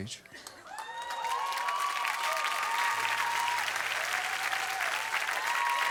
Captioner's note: audience cheers and claps